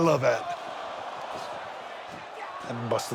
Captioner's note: audience cheers